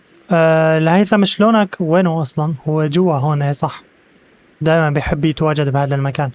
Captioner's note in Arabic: هبوب الريح